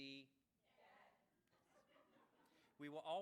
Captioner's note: laughs